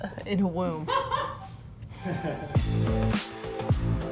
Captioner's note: laughing; upbeat music